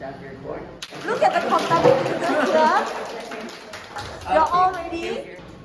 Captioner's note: clapping and cheering